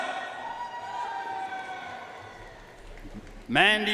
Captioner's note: audience cheering and applauding